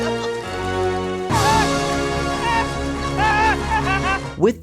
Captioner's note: laughing